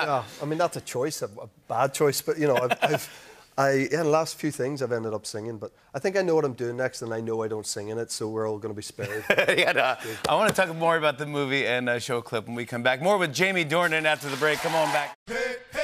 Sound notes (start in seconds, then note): 9.0 laughter